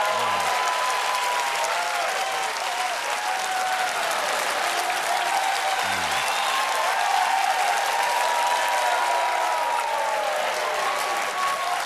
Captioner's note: cheers and applause